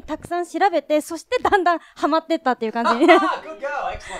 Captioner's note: laughs